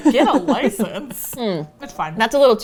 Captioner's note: laughs